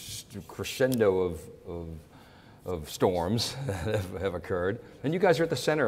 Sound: chuckles

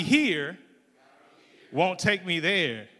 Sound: crowd

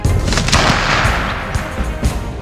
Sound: gun shot

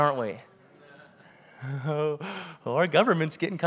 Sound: congregation agrees

